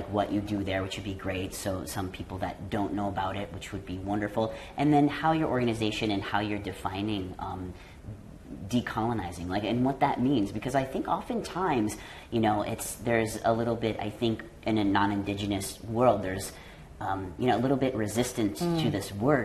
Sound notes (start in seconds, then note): none